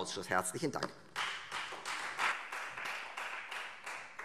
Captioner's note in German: Beifall Freie Demokraten